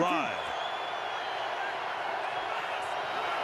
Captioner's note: cheering